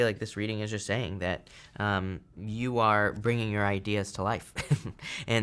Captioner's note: chuckles